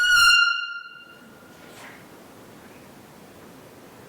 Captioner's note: short, loud Police Whistle